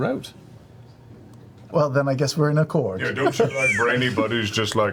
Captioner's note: laughs